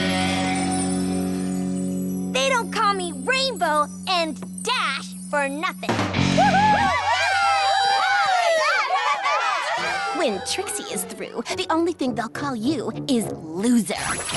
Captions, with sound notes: They don't call me "Rainbow" and "Dash" for nothing. [ Cheering ] When Trixie is through, The only thing they'll call you is "loser."